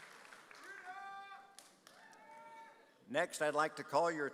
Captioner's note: audience cheers